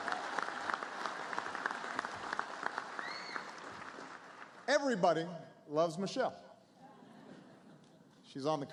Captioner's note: applause; laughter